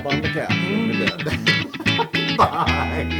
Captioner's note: laugh